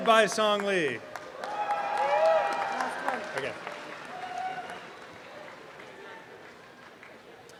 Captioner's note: applause and cheering